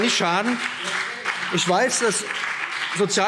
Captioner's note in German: Beifall BÜNDNIS 90/DIE GRÜNEN und CDU